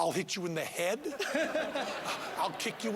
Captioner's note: laughing